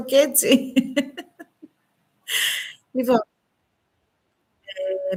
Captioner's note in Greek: γέλια